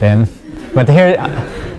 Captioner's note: laugh